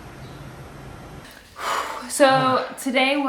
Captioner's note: deep exhale